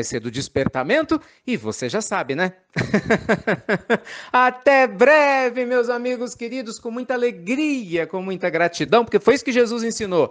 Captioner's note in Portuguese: risos